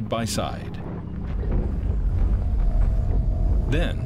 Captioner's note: thundering footsteps